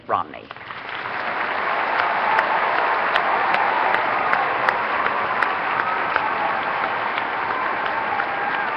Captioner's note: applause